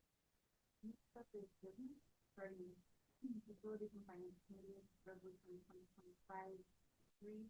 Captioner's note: speaks faintly